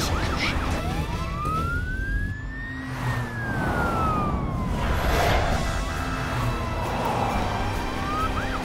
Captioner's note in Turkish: Polis siren sesi